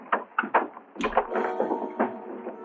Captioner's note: scuffling